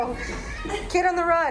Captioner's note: hoots